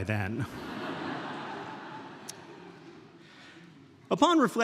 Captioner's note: audience laughing